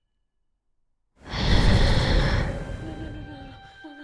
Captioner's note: loud swooshing, wings flapping, eerie breath